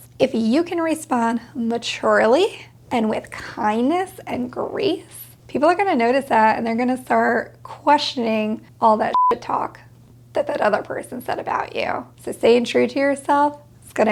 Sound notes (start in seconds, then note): 9.1 beep